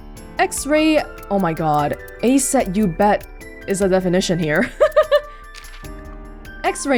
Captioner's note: chuckles